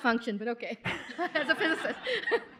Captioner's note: laughter